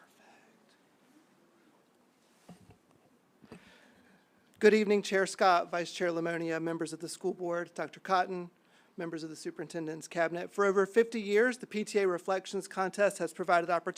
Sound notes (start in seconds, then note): 0.9 silence